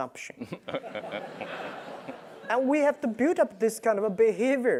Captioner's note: laugh